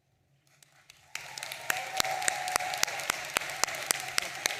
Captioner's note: audience applauding